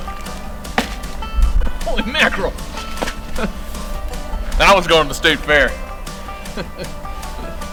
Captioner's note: laughter